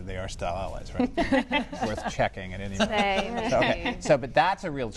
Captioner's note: laughter